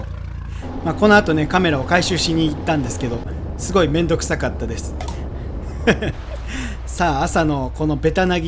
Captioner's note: haha